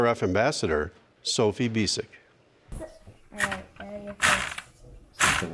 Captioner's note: sound from game board